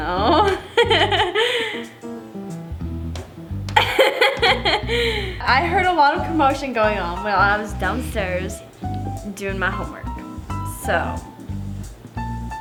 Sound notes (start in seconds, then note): 3.7 chuckles; 3.8 laughs